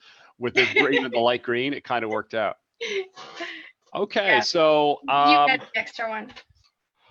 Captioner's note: laughs